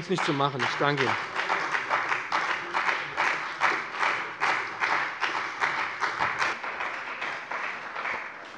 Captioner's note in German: Beifall bei der CDU und dem BÜNDNIS 90/DIE GRÜNEN